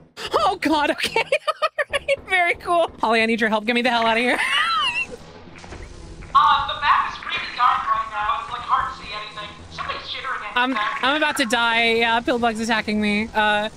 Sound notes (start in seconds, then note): 0.2 gasps; 4.3 laughs; 5.1 bug buzzes